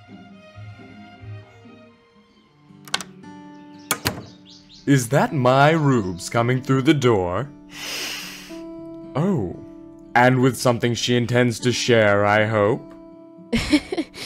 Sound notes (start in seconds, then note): 7.7 sniffs; 13.5 laughs